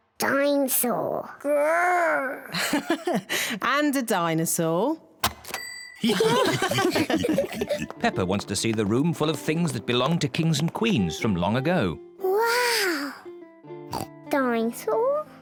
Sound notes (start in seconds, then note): 2.4 laughs; 6.0 all laugh; 13.9 oinks